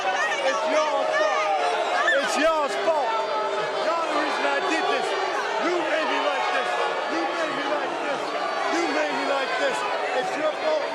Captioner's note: yelling